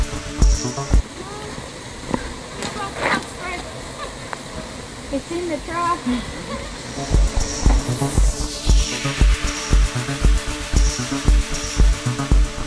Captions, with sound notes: Mom we should have brought bug spray (laugh) It's in the truck (Laugh)